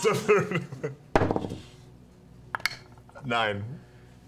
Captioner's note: laughs